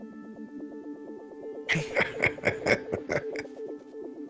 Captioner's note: chuckles